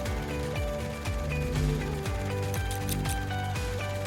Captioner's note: static buzzing; scissors snipping